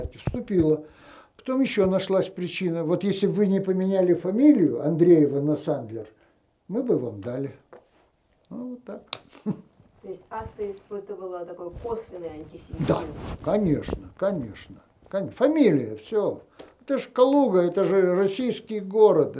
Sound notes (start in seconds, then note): 9.3 laughing